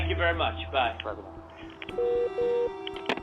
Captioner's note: call ends